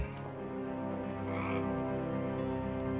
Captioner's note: parrot squawks